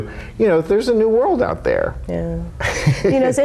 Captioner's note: laughs